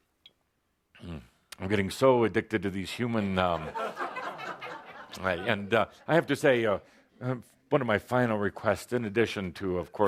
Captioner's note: laughter